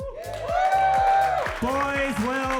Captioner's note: audience cheering; upbeat music